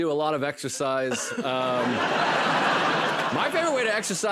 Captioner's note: laughter